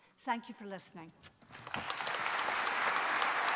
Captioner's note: applause